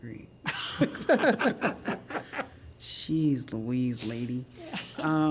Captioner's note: laughter